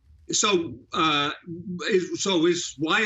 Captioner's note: laughing